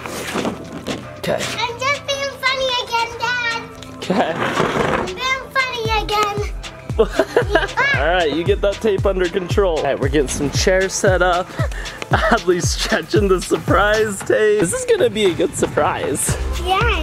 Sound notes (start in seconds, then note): 6.9 laughs